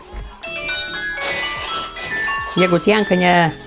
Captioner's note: telephone ringing in Lithuanian